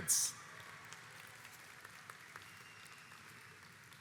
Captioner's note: audience applauds